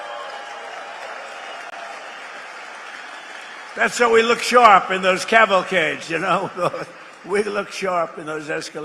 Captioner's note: applause